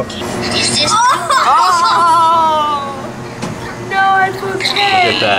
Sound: laughing

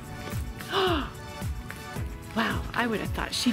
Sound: fun rhythmic music; woman gasping

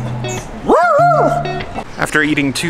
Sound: dog barks

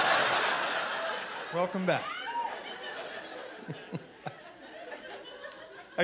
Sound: chuckling

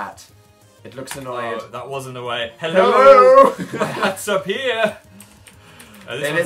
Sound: laugh

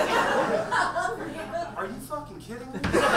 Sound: audience laughs

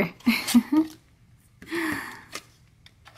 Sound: voiceover laughs; voiceover

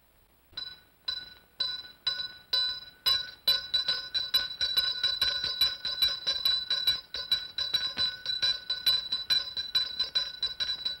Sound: bell rings once; ringing intensifies

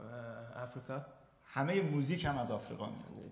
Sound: speaking in farsi

